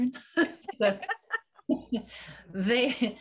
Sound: laughing

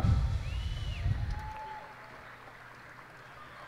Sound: cheers and applause

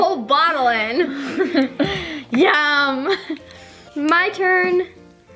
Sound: both laugh

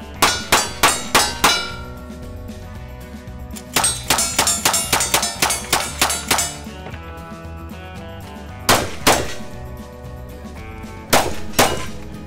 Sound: gunshots/plinking sounds

